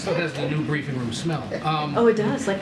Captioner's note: laughter